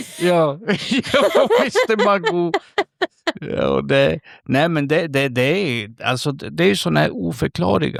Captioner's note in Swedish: skratt